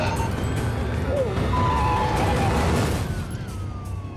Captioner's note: groans; tires screeching